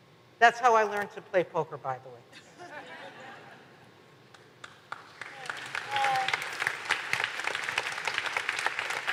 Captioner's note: applause